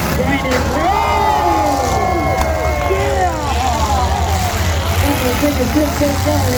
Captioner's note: cars wreck; crowd erupts